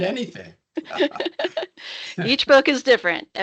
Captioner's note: laughing